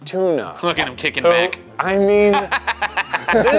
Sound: laughing

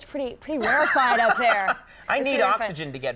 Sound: Conan laughs

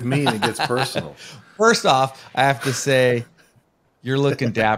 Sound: laughing

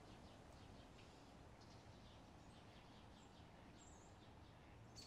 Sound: birds tweeting

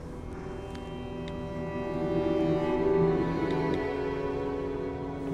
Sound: phone keyboard clicking

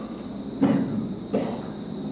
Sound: Luis coughs

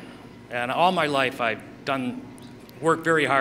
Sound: none

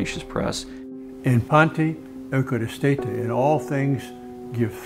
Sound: speaking Greek

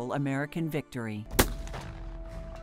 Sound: musket fire

